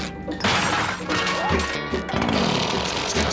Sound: unzipping

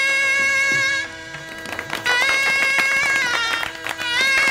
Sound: clapping

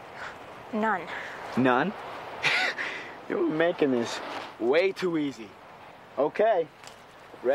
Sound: laughs

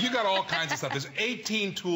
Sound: laughter

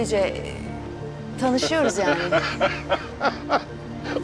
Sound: Taner laughs

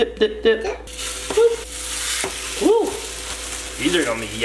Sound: batter sizzling

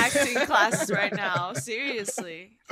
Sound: all laughing

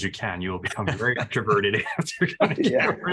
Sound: laughter

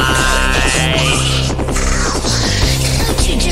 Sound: coughing

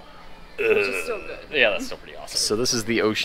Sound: groans

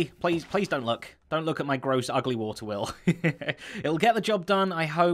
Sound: chuckles

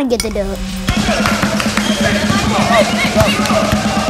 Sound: crowd cheering

